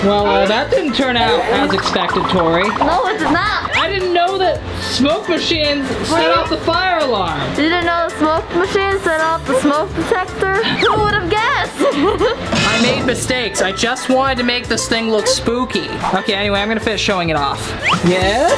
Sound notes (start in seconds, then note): 11.5 laughs